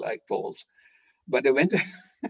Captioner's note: laughter